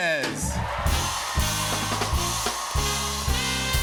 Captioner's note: cheers and applause